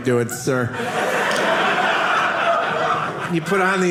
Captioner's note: audience laughing